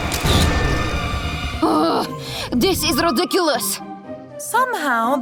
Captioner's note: Anastasia grumbles